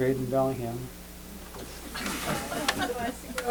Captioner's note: laughter